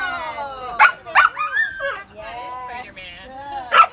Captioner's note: barks